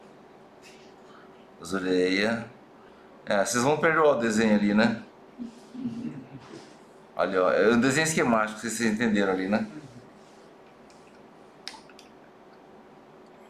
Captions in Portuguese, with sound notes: As orelhas... Vocês vão perdoar o desenho ali, né? *risos* Ali olha... É o desenho esquemático, vocês entenderam? *murmúrio de afirmação*